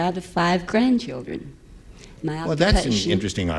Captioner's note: none